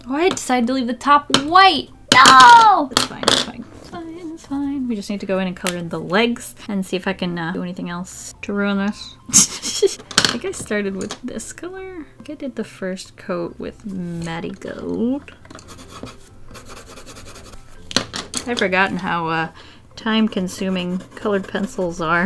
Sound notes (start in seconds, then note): 9.2 laughs; 16.4 loud pencil noise